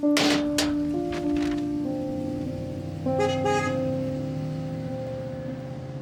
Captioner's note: horn beeps